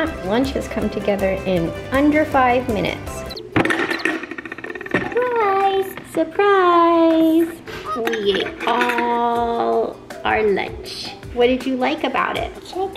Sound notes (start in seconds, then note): 3.6 opening container